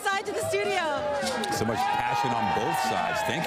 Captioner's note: applause